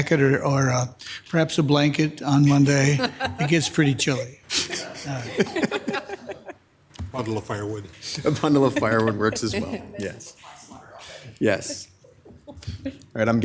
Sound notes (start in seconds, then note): 5.0 laughing; 10.8 member speaking faintly